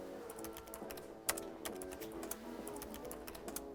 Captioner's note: keys clicking